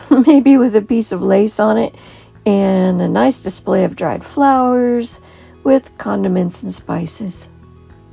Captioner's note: giggle